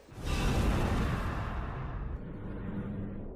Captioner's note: woosh